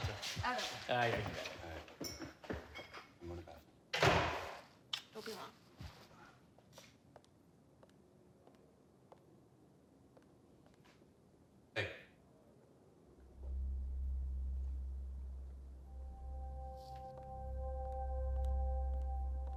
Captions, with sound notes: - I want one. - Okay, I'll be back. - All right. I'm going to the bathroom. (door slams) - Don't be long. - Hey. (tense music)